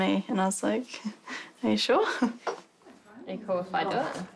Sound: chuckles

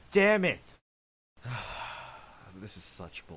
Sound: sigh

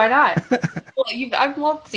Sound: laughs

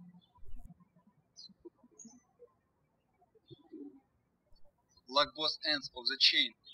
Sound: birds chirping

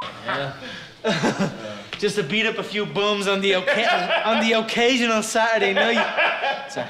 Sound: laughing

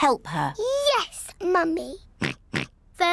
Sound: oinks

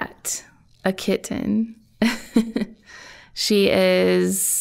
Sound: chuckling

